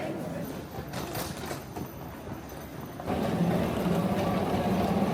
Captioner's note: luggage clacking